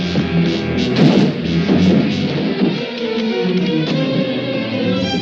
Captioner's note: banging on door